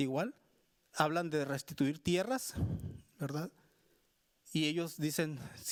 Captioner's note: speaking Spanish continues